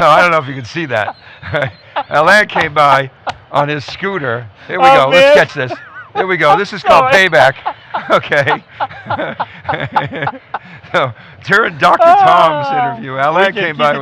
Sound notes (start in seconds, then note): 8.0 laughing